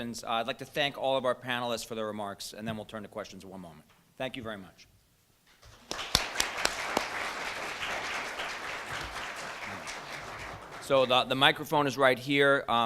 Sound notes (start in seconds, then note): 5.6 applause